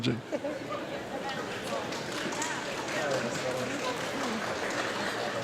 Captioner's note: audience laughs and claps